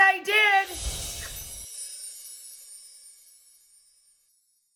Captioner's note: chimes tinkling